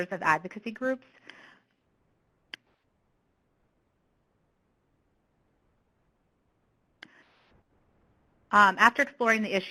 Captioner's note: pause